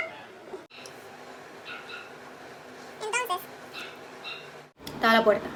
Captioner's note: doggo barking